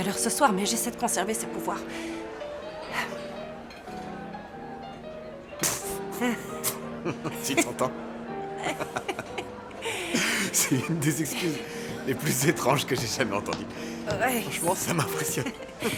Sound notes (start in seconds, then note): 5.5 snorting; 8.5 laughing